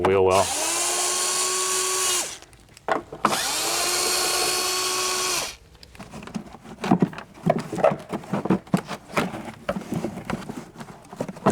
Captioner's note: drilling